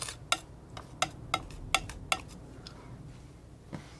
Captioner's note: tapping